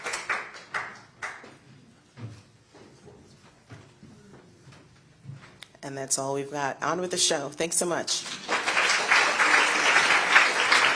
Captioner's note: applause